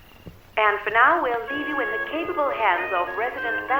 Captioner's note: radio Announcer